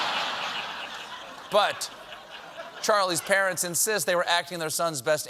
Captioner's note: laughter